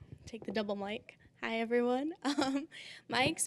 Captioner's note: chuckling